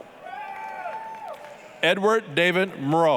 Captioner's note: applause, cheering